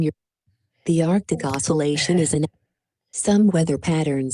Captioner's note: laughs